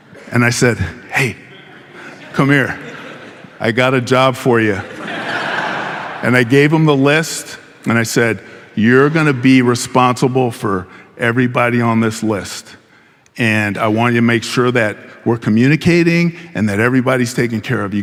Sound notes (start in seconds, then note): 1.2 audience laughing